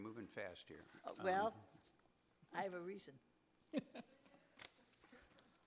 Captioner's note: laughs